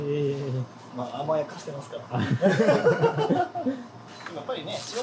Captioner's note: laughs